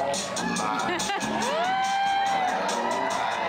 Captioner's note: cheering